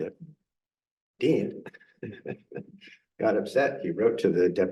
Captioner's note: chuckles